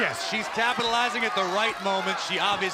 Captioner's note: crowd cheering